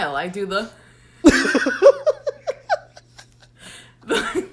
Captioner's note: both laugh